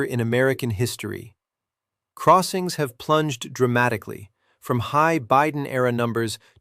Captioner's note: sarcastic